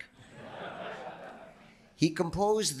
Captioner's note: audience laughing